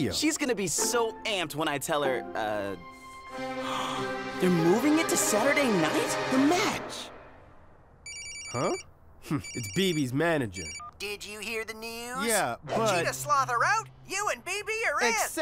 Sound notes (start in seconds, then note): 3.6 gasping; 8.0 phone ringing